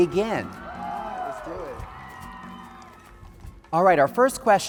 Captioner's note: audience applauding